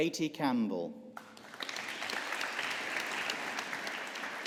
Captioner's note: audience applauding